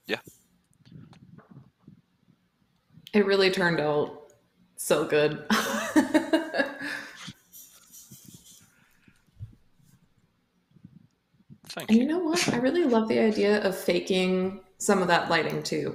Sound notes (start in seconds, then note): 5.5 laughter